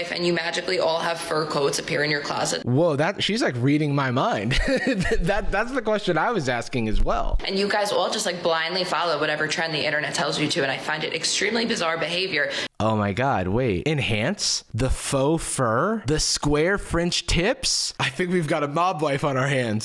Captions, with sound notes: and you magically all have fur coats appear in your closet? - Woah, that- she's like reading my mind. (laughs) That- that's the question I was asking as well. - And you guys all just like, blindly follow whatever trend the internet tells you to, and I find it extremely bizarre behavior. - Oh my god, wait. Enhance? The faux fur, the square French tips? I think we've got a mob wife on our hands.